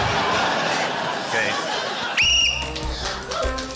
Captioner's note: wall bangs; whistle trills